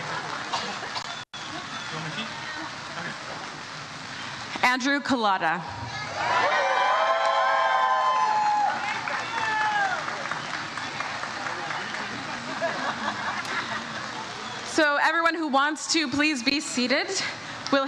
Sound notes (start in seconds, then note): 5.8 audience cheers